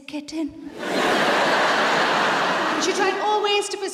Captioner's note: audience laughs